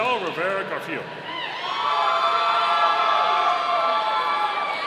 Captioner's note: audience cheering